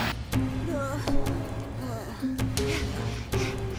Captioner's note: panting